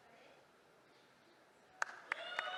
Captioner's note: cheering